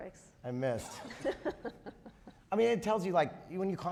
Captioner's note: laughing